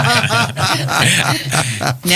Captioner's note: laughter